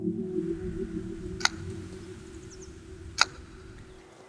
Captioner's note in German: Baumschnittgeräusch